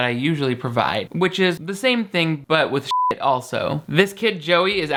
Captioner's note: beep